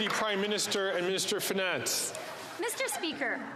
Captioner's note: some Applause